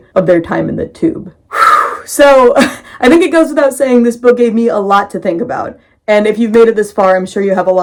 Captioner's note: big breath